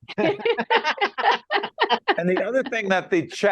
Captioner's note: laughing